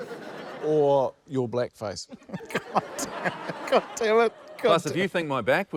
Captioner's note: chuckles